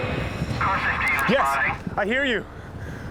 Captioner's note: radio Voice